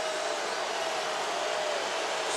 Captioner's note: crowd booing